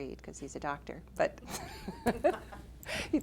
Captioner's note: laughter